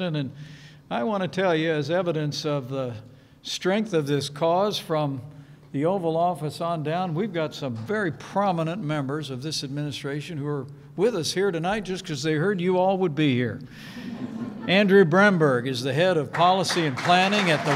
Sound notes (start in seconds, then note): 13.9 laughter